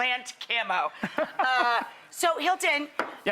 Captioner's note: laughter